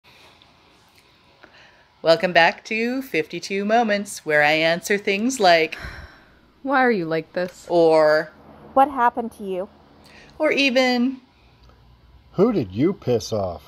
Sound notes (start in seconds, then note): 5.8 sigh